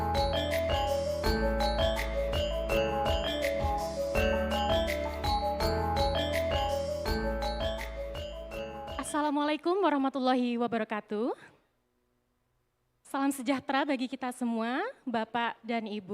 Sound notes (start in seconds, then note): 10.1 speaking indonesian